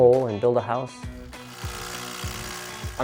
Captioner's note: sound of impact drill